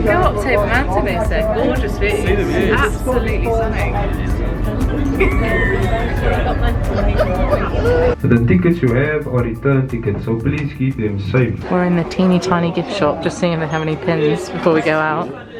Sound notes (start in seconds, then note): 5.1 laughs